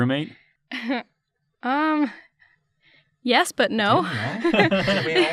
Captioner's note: chuckles; laughter